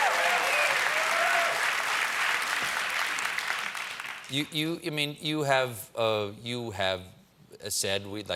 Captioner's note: cheers and applause